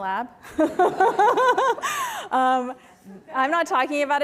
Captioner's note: laughter